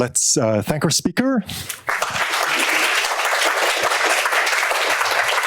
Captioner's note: applause